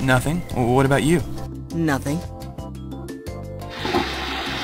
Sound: toilet flushes

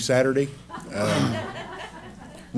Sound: laughter

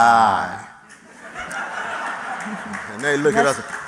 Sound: laughter

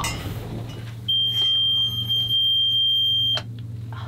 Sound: boat beeping

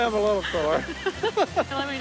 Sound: laughter

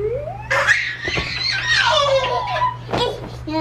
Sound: laughter

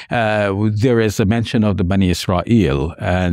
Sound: speaks in Arabic

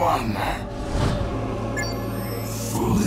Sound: beeping

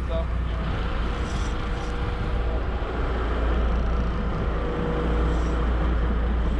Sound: boat engine running; reel cranking

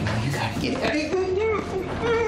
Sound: moaning

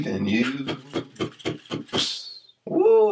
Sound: Mr. Root beatboxing to a stop

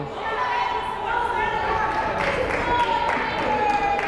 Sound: crowd chattering

